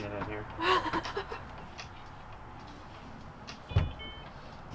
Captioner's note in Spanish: riendo